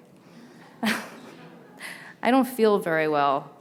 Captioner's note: laughs